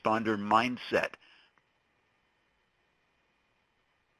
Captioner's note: silence